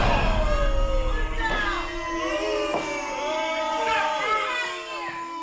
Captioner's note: crowd booing